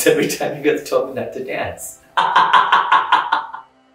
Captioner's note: laughs